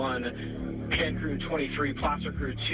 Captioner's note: radio